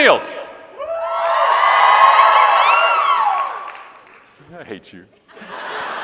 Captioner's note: audience cheering and clapping